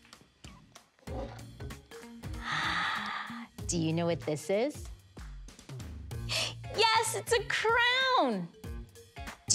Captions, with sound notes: (gasps) Do you know what this is? Yes, it's a crown.